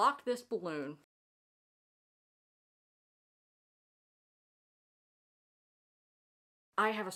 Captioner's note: no audio